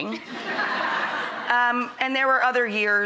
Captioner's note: laughter